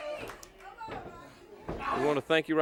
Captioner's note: crowd cheering